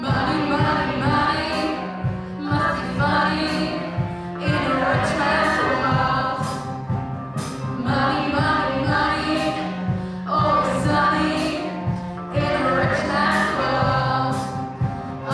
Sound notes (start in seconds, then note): 6.8 double hit